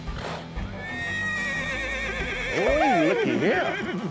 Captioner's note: horse whinnies